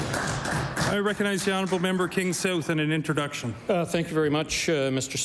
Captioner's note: applause